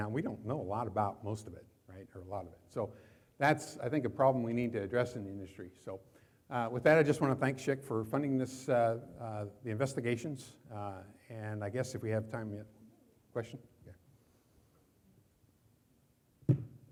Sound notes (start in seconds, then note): 13.2 woman speaking away from mic; 16.6 mic thuds softly